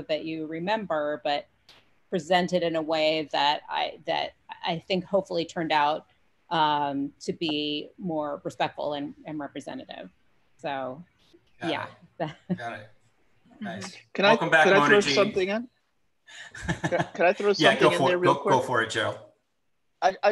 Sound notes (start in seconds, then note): 16.5 laughs